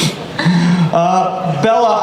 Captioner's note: Lily laughs